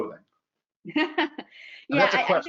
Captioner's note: laughs